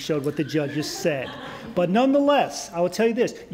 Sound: laughter

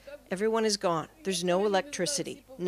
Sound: speaking Foreign Language

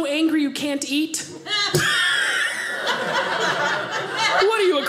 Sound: audience laughing

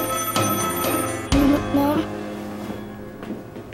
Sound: phone rings

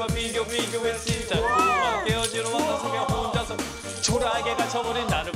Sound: impressed

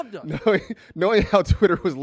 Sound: laughs

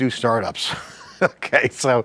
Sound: laughs

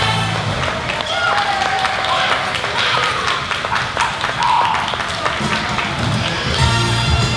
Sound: applause

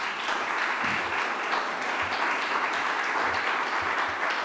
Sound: audience applauding

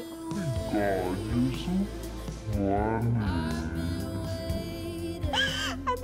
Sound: slow-motion pitched-down voice

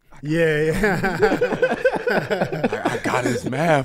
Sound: laughs

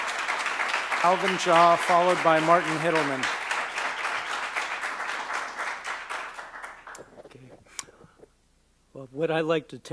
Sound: applause

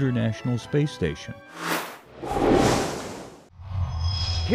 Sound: sound Effects

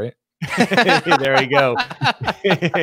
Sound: laughs

